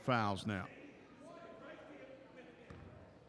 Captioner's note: ball pounding; yelling